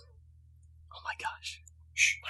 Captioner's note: whispering